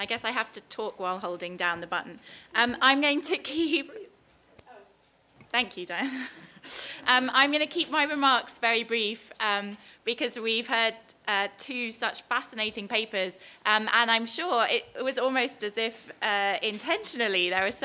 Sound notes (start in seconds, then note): 6.0 laugh